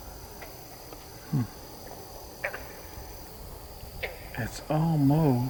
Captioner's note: katydids forest sounds